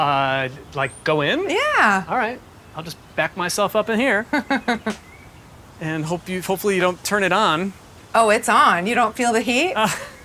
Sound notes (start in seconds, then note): 4.3 Gwyneth chuckling